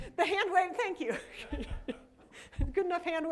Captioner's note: laughter